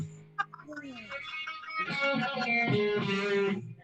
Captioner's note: laughs